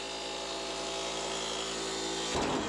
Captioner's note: machine noise